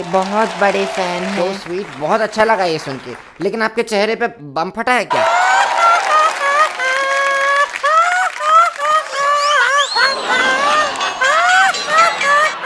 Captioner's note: all laugh